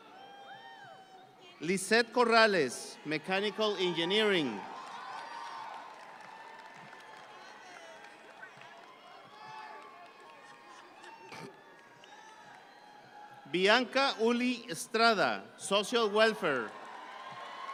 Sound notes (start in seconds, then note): 5.1 audience cheering